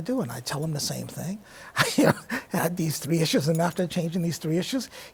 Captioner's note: chuckles